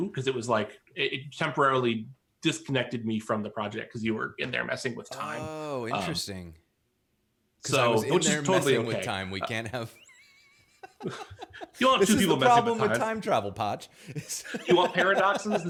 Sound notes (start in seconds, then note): 9.4 laughs